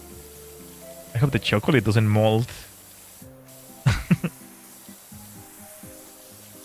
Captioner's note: laughter